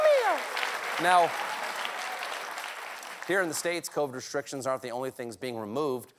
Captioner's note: applause